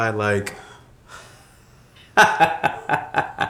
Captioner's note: laughs